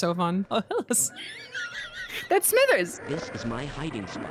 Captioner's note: laughs